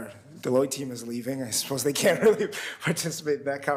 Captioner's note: laughs